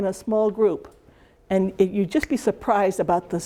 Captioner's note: snaps